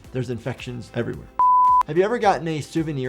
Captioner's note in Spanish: pitido en pantalla